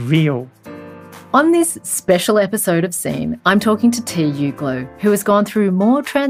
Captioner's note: voiceover